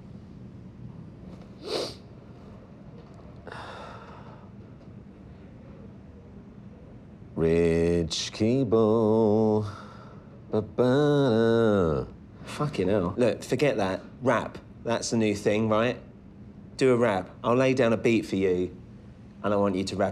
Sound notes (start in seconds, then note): 3.4 sighs; 7.2 sings